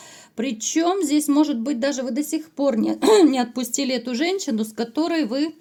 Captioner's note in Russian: откашливается